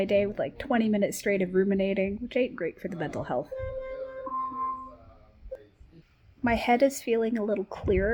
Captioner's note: device ringing